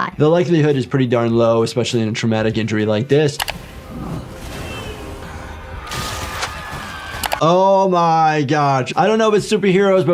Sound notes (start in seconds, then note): 3.4 screen clicking; 3.5 dust cloud whooshes; 3.9 people screaming; 7.1 screen clicking